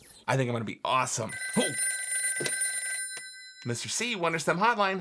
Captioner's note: phone rings